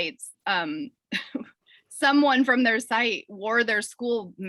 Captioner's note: chuckles